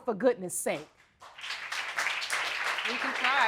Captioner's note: audience applauding